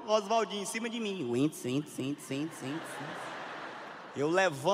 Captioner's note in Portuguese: voz ecoando